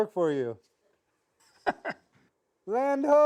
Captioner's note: laughs